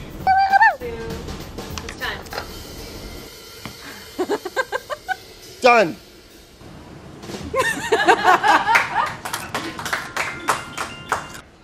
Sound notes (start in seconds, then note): 4.1 laughs; 7.6 laughing; 8.7 crew applauds